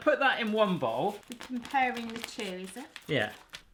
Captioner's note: cutting plastic bag